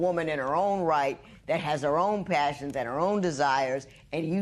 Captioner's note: none